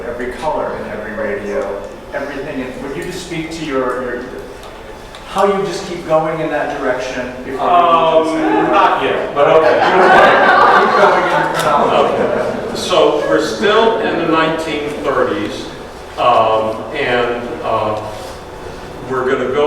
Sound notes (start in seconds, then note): 10.3 audience laughs